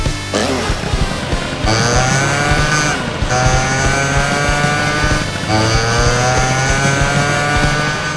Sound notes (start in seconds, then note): 1.5 motorcycle engine revs; 4.2 tire squeals